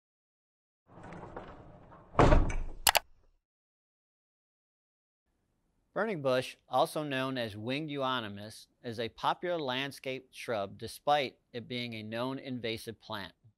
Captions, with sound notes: (icon rattling) (icon clunking) (mouse clicking) - Burning bush, also known as winged euonymus, is a popular landscape shrub despite it being a known invasive plant.